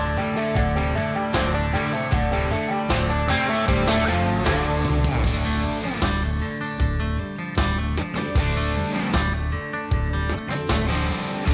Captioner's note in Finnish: Aplodeja